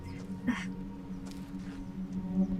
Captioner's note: giggles gently